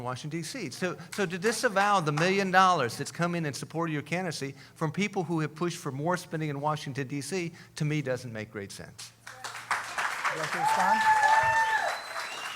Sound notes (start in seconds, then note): 9.8 cheering